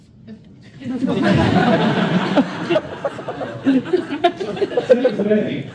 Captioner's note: laughter